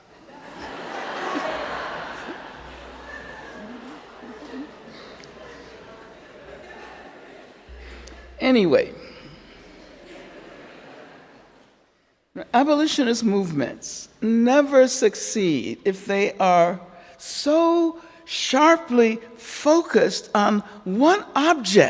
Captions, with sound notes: (Angela and audience laughing) Anyway. (audience laughing) Abolitionist movements never succeed if they are so sharply focused on one object